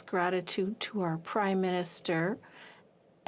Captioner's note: speaking in french